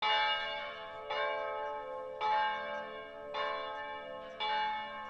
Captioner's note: church Bells Ringing